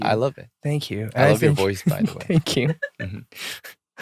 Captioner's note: laughter